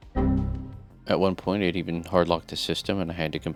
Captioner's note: Windows XP - error noise